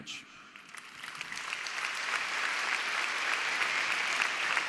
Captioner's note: audience applause